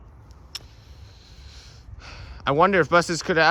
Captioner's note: exhales